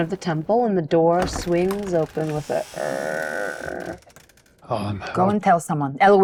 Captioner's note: imitates creaking